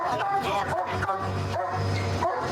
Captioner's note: barking